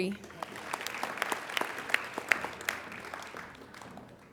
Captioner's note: applauding